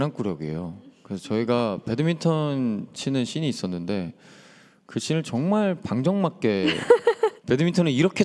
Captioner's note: laughter